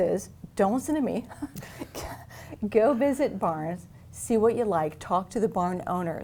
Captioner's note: chuckles